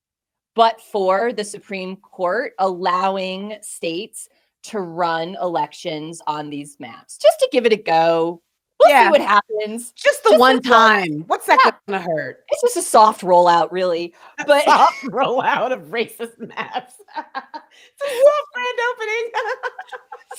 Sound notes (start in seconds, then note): 16.3 laughing